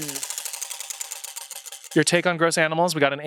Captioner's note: wheel rattles